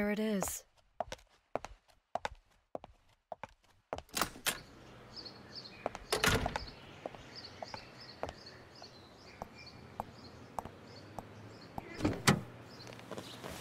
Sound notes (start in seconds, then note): 2.1 car starts; 2.1 door opens then closes